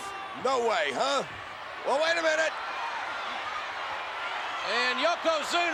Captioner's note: spectators cheering